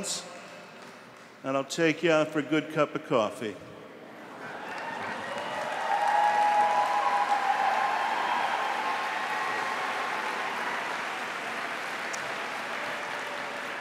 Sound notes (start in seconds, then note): 8.2 applause